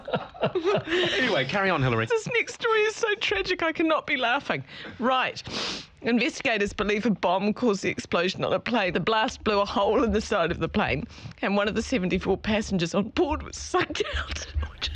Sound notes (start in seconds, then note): 0.0 laughter; 5.4 sniffles; 14.7 breaks down into fit of laughter; 14.7 snickers